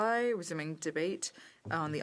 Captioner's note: speaking French